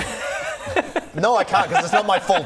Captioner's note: unsupportive giggles